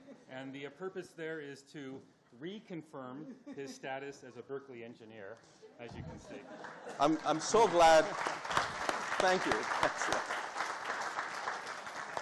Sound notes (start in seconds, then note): 6.6 audience applauding